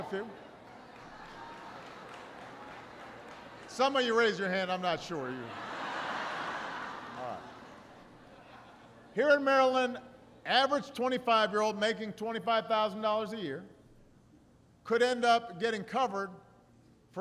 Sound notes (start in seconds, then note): 0.0 applause; 8.4 laughter